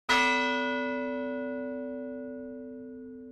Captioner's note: bell ringing